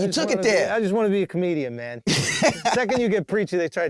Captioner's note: laughing